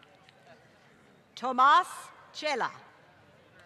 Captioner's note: applause